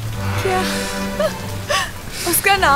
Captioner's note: Laughs